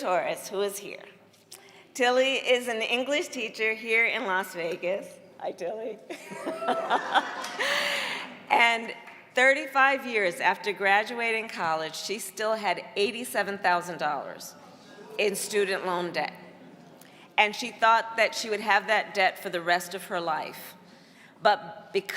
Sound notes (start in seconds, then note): 10.0 laughter